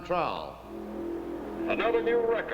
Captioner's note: engine running